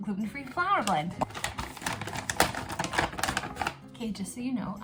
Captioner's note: bag rustling